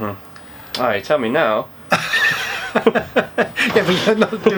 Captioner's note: they laugh